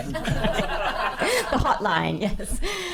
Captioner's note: laughing